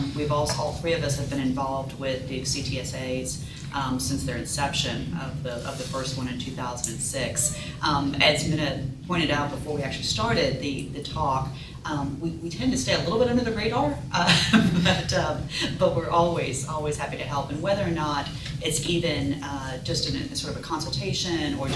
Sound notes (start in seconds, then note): 14.3 laughs